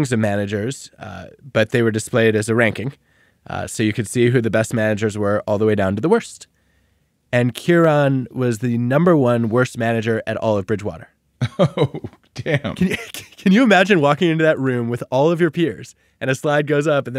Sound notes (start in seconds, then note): 11.4 laughing